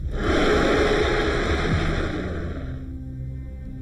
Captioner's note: shark roaring; brooding music